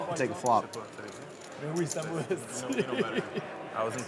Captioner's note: players converse in French